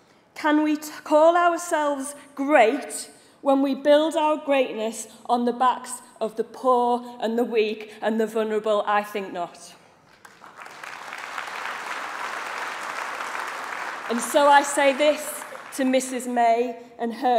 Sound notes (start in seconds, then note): 10.0 applause